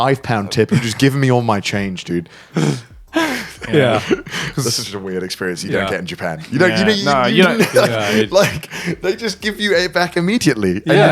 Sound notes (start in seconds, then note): 6.4 laughing